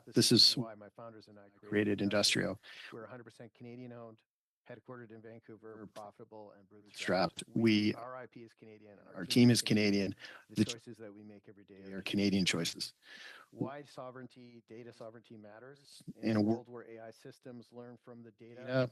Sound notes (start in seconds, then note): 6.5 echoing audio